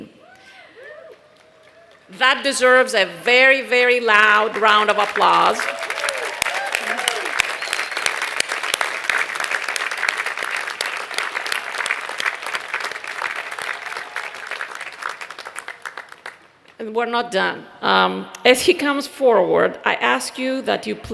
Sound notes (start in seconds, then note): 4.2 applause